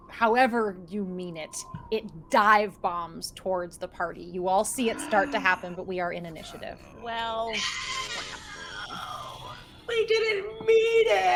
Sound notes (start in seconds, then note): 6.8 characters whimper